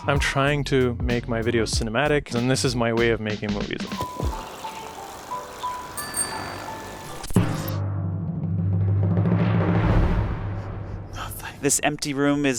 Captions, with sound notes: - I'm trying to make my video cinematic and this is my way of making movies. (bicycle whirs) (bell dings) (dramatic music) - No thanks. - This empty room